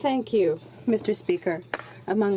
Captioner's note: speaking in french